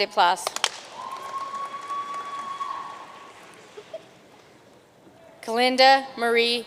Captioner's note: audience cheering and applauding